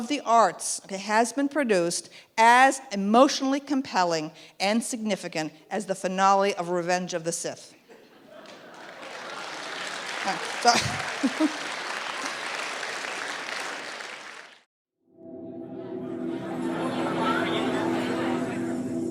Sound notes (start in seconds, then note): 8.3 audience applause; 15.1 soft ethereal music